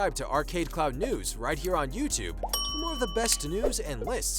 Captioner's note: bell chiming